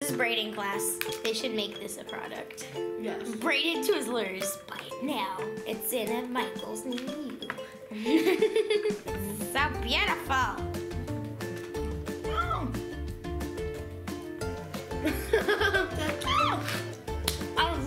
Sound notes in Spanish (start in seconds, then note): 8.0 risas; 10.7 Música rítmica optimista; 15.0 ríe